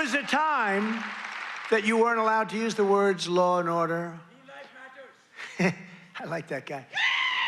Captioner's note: cheers and applause